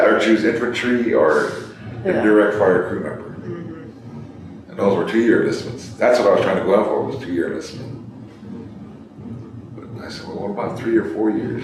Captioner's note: laughs